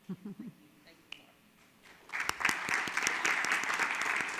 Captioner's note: audience claps